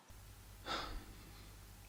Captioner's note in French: soupire